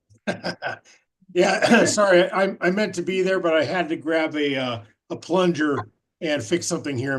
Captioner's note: laughs